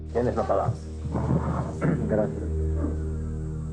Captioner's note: speaks Spanish